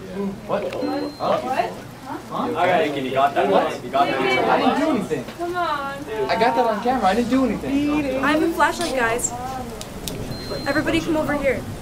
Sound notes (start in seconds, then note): 0.0 light clicks off; 0.3 various people saying "What?" or "Huh?"; 9.8 flashlight clicks on